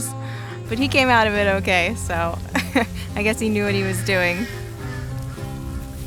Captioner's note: laughing